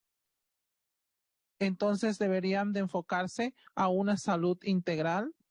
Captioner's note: speaking Spanish